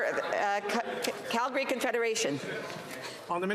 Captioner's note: crowd noise